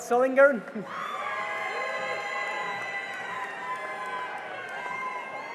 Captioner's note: cheering and applause